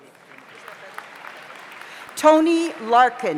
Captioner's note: audience applauds